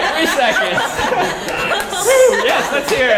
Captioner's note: applause